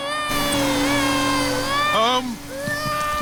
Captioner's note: crying